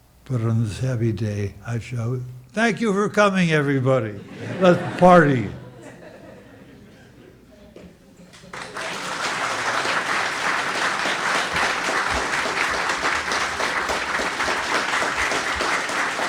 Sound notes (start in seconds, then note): 8.3 audience applauding